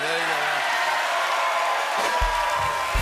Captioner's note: laughter, cheering, and applause; rimshot